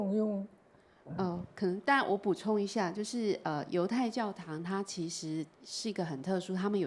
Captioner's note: Mandarin